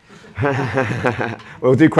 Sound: chuckling

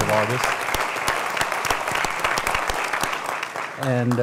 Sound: applause

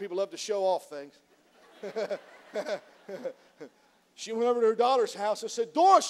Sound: laughs; laughs

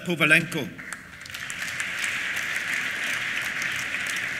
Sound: applause

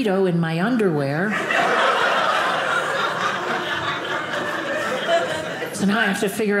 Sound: audience laughing

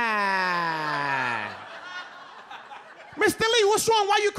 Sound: audience laughs

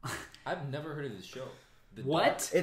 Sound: laughs

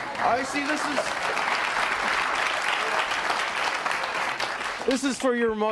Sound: audience applauding

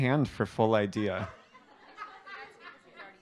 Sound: laughter

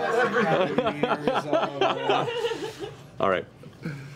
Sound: laughter

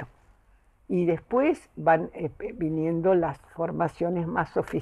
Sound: none

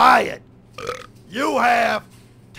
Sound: burp

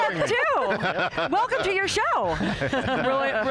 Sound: laughing

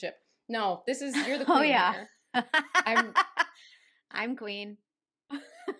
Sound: laughter

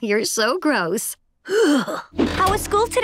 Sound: sighing

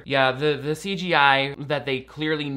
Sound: none

